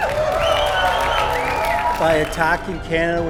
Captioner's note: applause